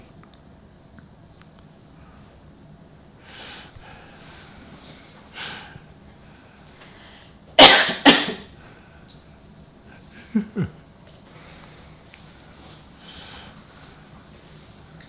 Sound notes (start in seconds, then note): 7.5 coughing; 10.1 laughing